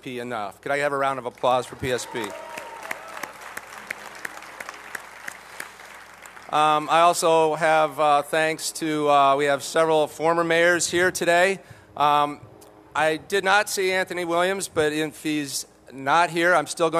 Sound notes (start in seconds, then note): 4.3 applause